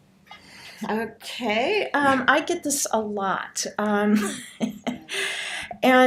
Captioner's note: laughs